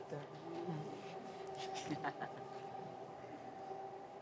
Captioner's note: laugh